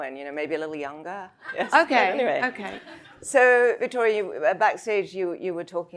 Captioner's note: audience laughs